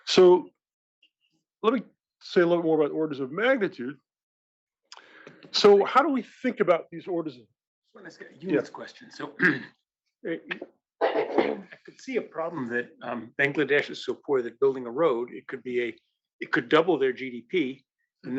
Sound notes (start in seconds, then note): 9.4 cough